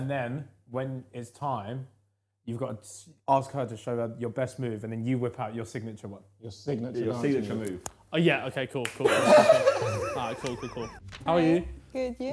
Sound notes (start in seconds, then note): 9.1 chuckling